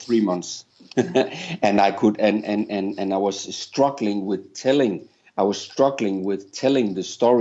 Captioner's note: chuckles